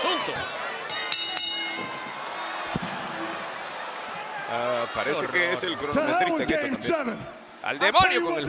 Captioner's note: applause